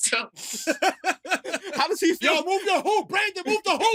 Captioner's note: laughs